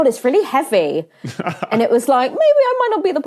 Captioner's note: laughs